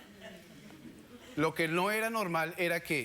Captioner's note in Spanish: Risas